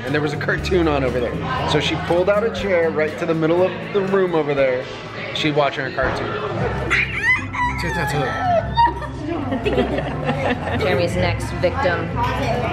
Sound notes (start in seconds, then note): 6.9 squeals